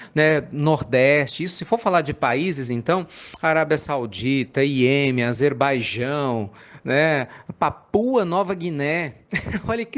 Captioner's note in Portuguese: Risos